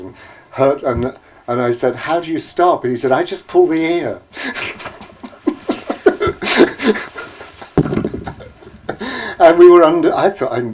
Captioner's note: laughs